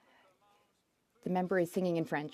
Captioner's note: speaking French